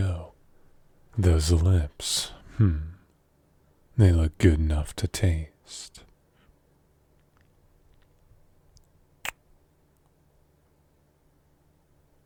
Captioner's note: kiss